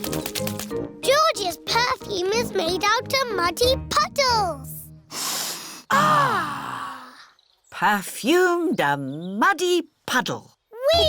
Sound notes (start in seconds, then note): 5.1 all sniff